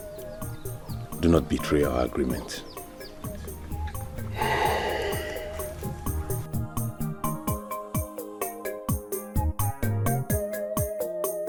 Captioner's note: sighs